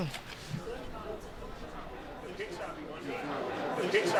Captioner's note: murmuring